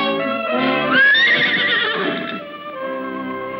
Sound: neighing

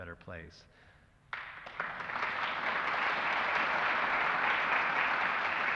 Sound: applause

